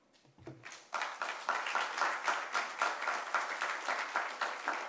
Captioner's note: applause